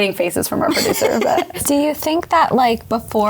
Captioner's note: laughing